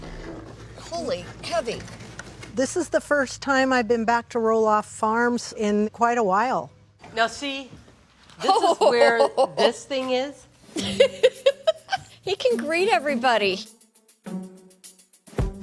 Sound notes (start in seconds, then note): 10.7 laughs